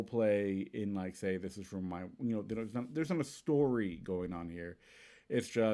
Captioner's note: stammers